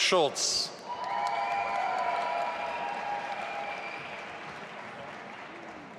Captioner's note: audience applauding and cheering